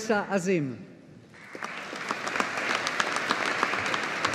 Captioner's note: audience applauding